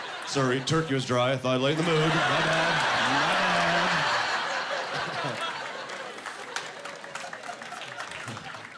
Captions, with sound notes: "Sorry, turkey was dry. Thought I'd lighten the mood. "My bad, my bad." (Laughing)